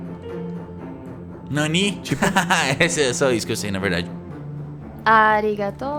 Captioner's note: laughter